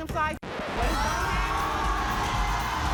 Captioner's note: record scratch; crowd cheering